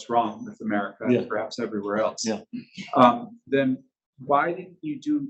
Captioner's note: chuckles